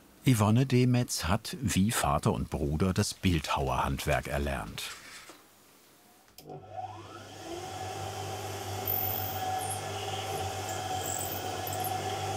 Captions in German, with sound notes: Yvonne Demetz hat wie Vater und Bruder das Bildhauerhandwerk erlernt. (Einschalten und Surren des Geräts) (Leises Quietschen)